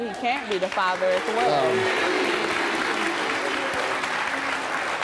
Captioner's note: audience clapping